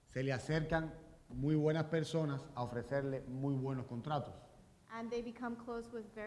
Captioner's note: speaking in Spanish